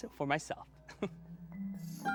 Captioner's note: chuckles